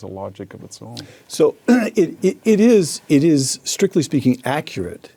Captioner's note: cough